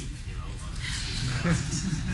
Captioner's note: laughter